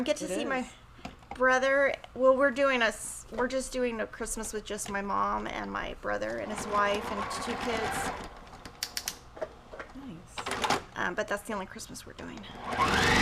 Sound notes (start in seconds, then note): 6.4 machine whirrs; 8.5 knobs clicking